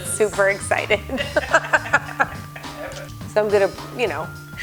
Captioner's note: laughing